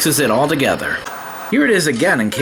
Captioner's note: white noise scratching